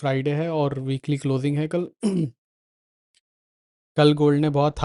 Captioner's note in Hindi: गला साफ़ करने की आवाज़